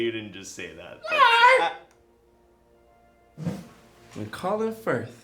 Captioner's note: man shouts